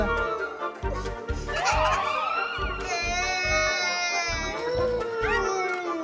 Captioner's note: twin sirens activated